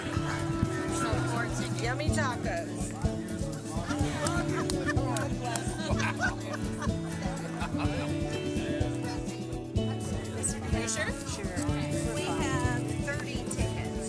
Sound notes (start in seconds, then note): 0.1 instrumental music; 2.1 people chattering; 3.4 laughing; 10.9 people chattering